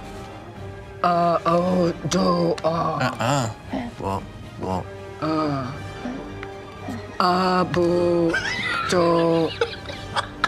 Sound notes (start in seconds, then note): 3.2 grunts negatively